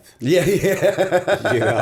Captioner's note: laughter